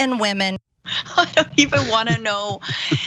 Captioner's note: laugh